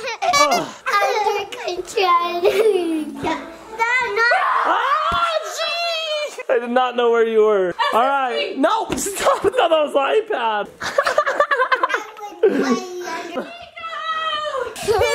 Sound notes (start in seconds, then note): 10.8 laughs